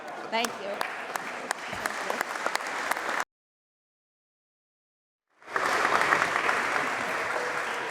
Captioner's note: applause